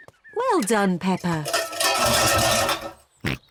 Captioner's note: cans clatter; snorts